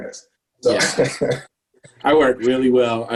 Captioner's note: laughs